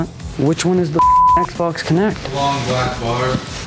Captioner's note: beep